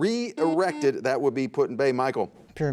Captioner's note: buzzer sounds